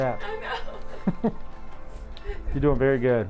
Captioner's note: laughing